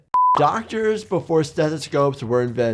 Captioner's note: screen beeps